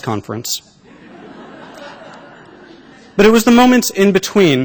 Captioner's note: laughter